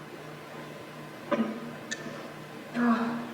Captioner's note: coughs